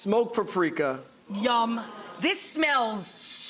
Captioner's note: audience gasps